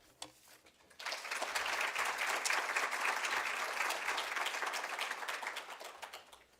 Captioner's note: applause